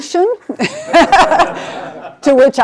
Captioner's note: laughing